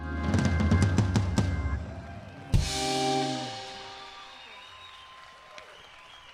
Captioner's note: audience applauding and cheering